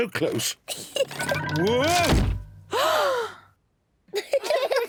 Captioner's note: laughs; gasps; all laugh